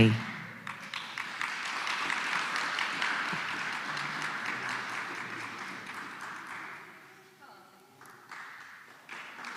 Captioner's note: applause